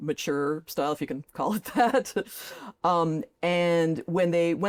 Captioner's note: chuckles